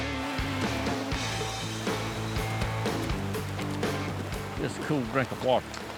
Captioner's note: stream gently rushing